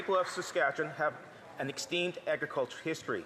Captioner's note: some Applause